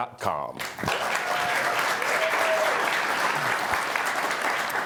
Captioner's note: audience applauding